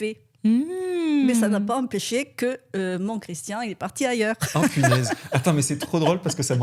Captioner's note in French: rires